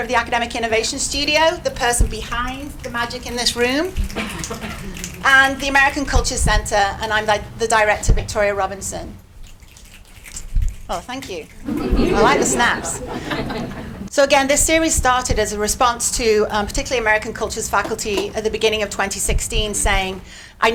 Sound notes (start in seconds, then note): 3.9 audience snapping; 9.8 audience snapping; 11.6 audience laughing